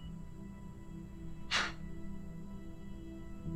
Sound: scoffs

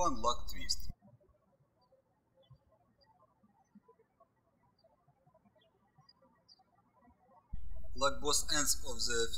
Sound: birds chirping

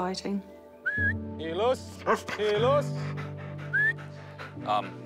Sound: whistles; barks

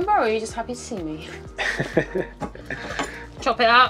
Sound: laughing

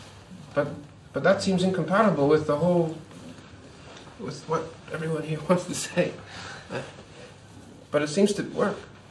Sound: laughs

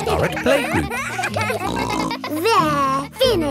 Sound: kids giggling

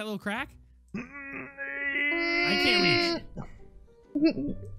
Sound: Unicorn grunts

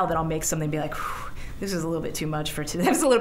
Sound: exhaling; chuckling

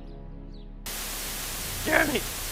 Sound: white noise

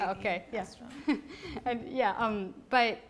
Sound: voiceover; laughs

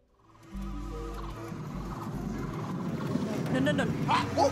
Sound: game sounds

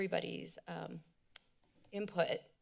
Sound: clicks tongue

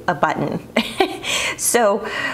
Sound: chuckles

